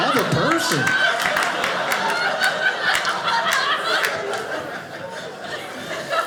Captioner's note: audience laughing